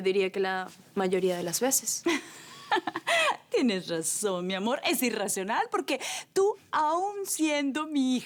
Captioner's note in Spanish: Risas